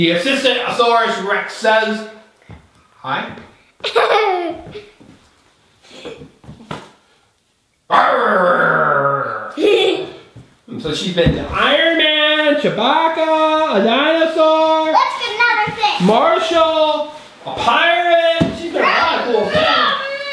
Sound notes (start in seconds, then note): 3.8 girl laughs